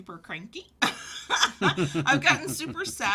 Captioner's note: laughter